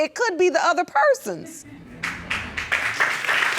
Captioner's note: audience clapping